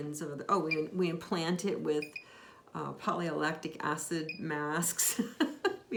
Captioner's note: laughs